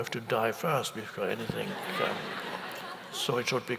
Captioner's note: audience chuckles